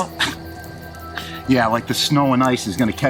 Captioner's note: scoffs